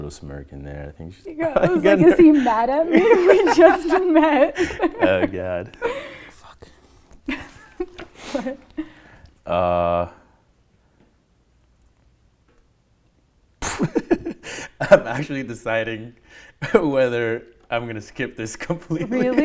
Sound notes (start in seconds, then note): 1.3 laughing; 7.2 laughter; 13.7 laughs; 19.0 laughs